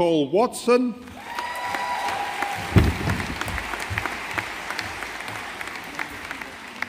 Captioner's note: audience applauding